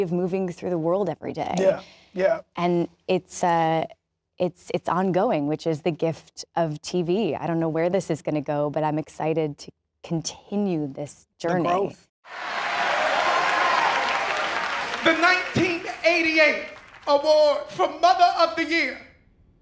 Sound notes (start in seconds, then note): 12.2 crowd cheers